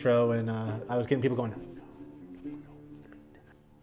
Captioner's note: whispering